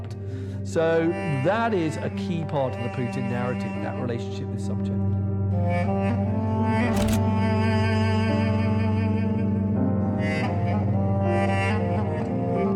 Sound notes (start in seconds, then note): 6.9 slide clicks; 6.9 soft dramatic music continues